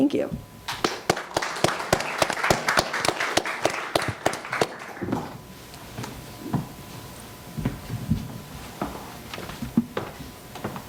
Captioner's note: applause